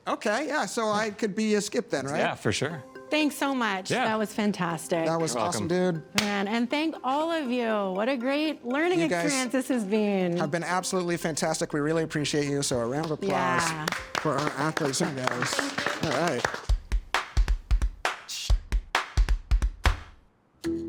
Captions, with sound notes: - Okay, yeah, so I could be a skip then, right? - Yeah, for sure. - Thanks so much. - Yeah. - That was fantastic. - That was awesome, dude. (hands smack) - Man, and thank all of you. What a great learning experience this has been. - Have been absolutely fantastic. We really appreciate you. So a round applause for our athletes. (group applauds) - And thank you. - All right. (upbeat music)